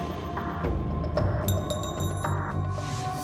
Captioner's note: clinking sound